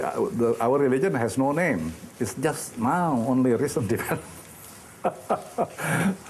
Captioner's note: laughing